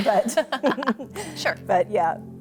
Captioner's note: laughs